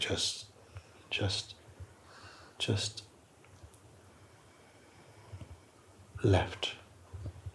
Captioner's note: long, slow exhale